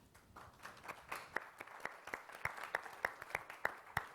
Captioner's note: applause